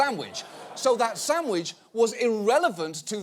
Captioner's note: audience laughing